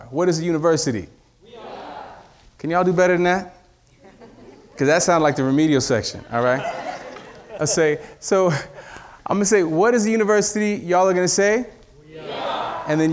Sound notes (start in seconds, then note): 4.4 audience laughing